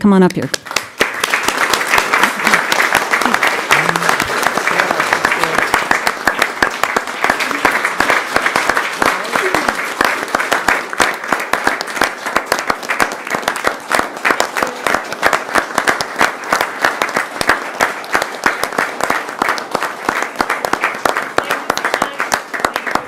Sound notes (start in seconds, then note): 11.4 applause